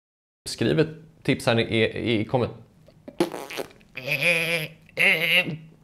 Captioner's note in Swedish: pruttljud